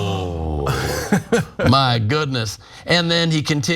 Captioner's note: laugh